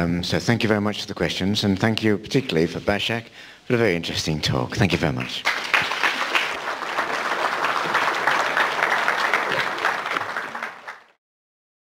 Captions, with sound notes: So thank you very much for the questions. And thank you particularly Pasha for a very interesting talk. Thank you very much. [ Applause ]